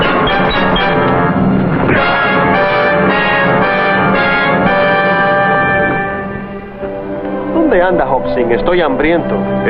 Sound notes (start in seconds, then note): 1.6 grunts